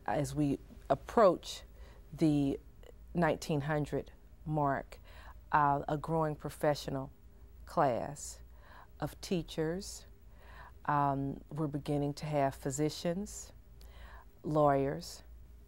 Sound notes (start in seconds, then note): none